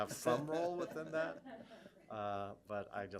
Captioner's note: laughter